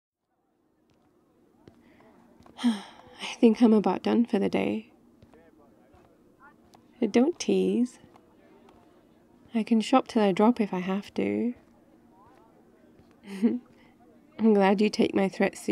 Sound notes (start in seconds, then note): 0.0 walking and outdoor ambience; 2.5 sighs; 13.0 laughs